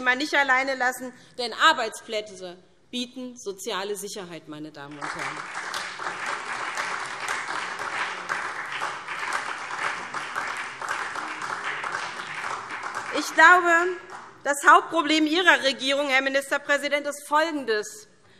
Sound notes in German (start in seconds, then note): 4.8 Beifall SPD